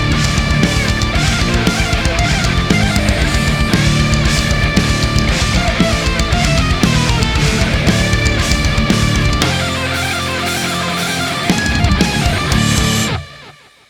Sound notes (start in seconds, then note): 9.0 bell ringing